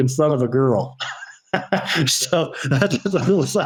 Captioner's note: laughs